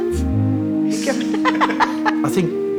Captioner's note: laughing